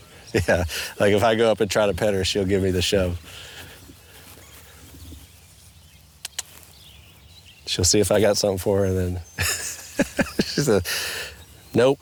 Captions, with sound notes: Yeah. Like if I go up and try to pet her, she'll give me the shove. (clicks teeth). She'll see if I got something for her, and then she said, “Nope.”